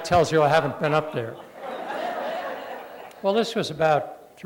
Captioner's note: laughter